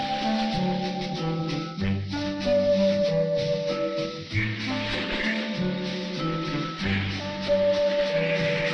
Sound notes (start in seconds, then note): 2.1 light playful music continues; 4.3 ducks quacking